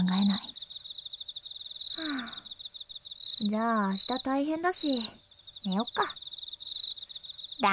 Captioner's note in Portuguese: suspiro